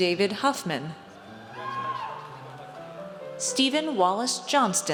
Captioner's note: audience cheers